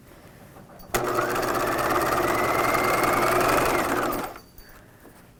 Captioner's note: machine whirring